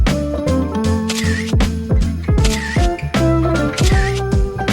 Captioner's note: camera shutter clicking; camera shutter clicking